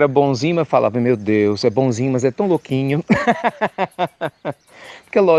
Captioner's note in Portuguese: Risos